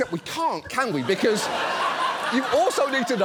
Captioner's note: studio audience laughs